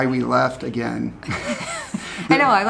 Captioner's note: both laugh